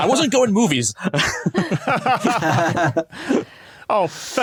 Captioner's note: group laughing